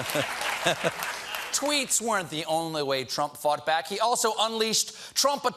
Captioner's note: cheers and applause